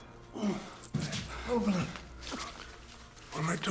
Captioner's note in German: Stöhnt